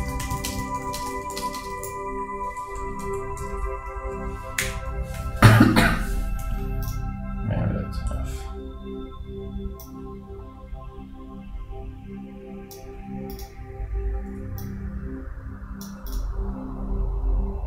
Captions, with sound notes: (keys clacking) (coughing) Man, that's enough.